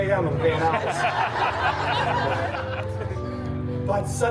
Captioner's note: guests laughing